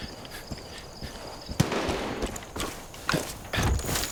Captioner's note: gun firing